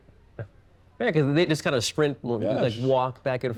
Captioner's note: chuckles